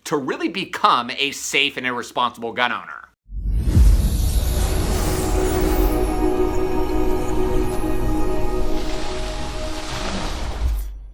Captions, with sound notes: to really become a safe and a responsible gun owner. (light electronic humming)